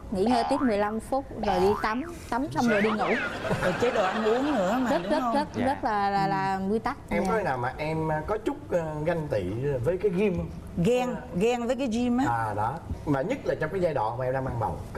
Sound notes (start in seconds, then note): 2.6 laughs